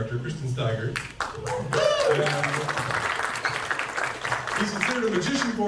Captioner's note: audience cheers and claps